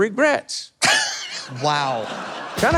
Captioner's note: host laughs